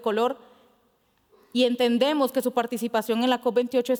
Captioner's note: speaking Spanish